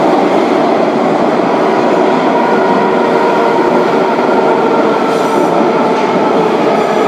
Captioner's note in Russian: торможение - прибытие на станцию